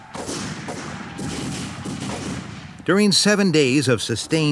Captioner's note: guns bang